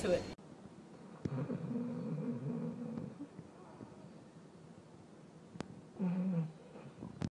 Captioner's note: snore